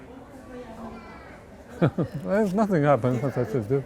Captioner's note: laughs